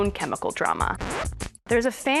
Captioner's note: electronic rip